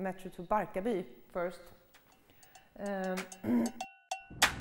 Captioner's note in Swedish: harkling